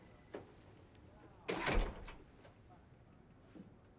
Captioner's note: door open close